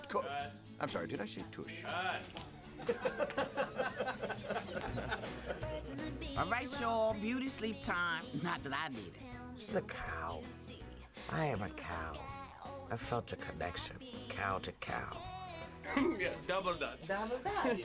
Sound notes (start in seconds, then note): 2.8 laughter